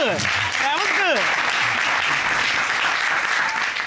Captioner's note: applause